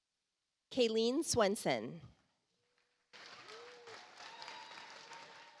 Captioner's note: audience applauds